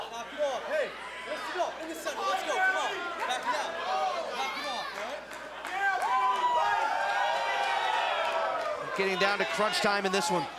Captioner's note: crowd cheering